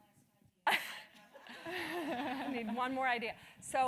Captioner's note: laugh